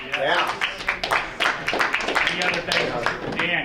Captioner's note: applause